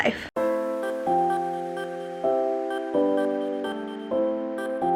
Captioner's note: none